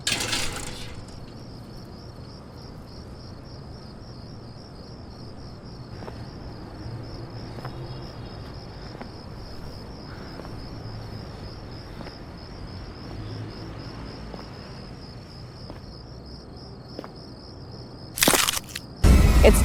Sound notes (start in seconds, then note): 0.0 gate slams; 7.5 distant traffic hums; 7.5 footsteps clacking; 18.1 crab shell crunches